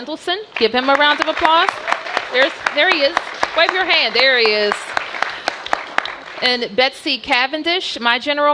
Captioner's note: applause